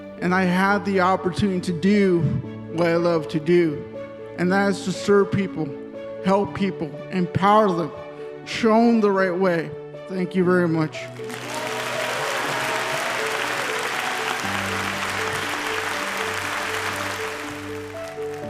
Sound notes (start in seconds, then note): 11.0 audience clapping; 11.2 audience cheering